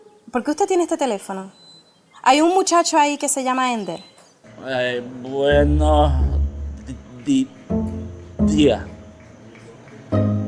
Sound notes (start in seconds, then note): 5.0 stuttering